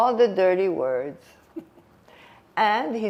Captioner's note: laughing